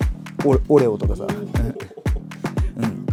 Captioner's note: laughs